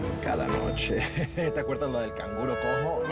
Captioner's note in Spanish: Ríe